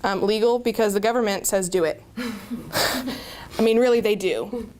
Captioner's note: speakers & Audience chuckle